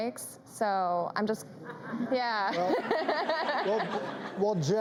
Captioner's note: laughs